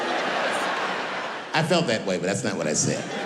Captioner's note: audience laughing